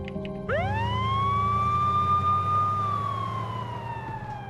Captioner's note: siren wailing